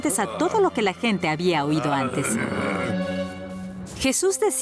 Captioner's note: grumbling